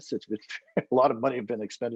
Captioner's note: laughing